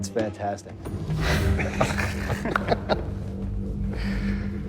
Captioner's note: laughter